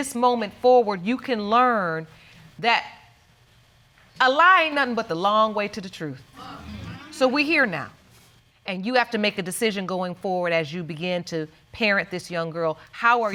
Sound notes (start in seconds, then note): 4.5 audience agreeing